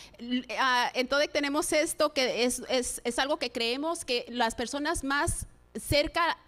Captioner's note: speaking in Spanish